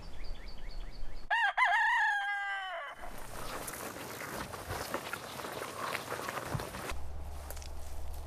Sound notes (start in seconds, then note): 1.3 cock crowing; 2.9 ground crunching